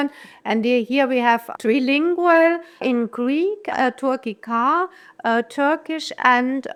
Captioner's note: Turkish